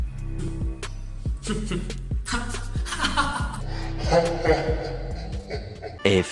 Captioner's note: evil laugh